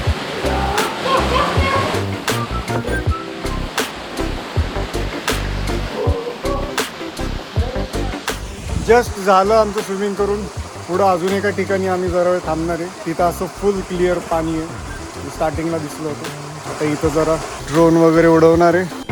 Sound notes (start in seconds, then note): 0.4 laughing